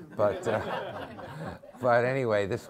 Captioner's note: members of the audience laughing